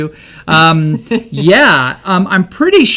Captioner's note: laughs